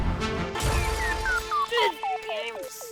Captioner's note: crash